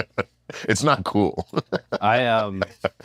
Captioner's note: laugh